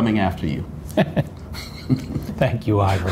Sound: laughs

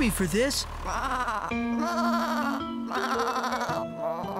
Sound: bleating

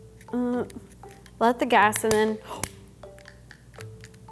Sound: lighter clicking

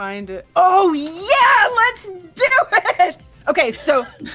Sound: yelling

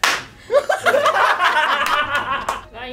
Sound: laughter

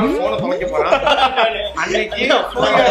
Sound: laughs

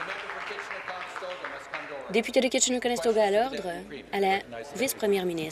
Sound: applause

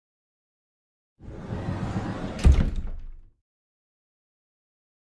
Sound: sound of closet door

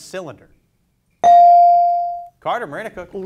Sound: bell dings

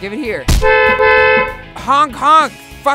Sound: honking

